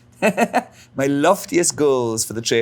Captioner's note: Alan laughs